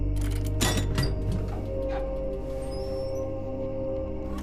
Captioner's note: metal lock clanking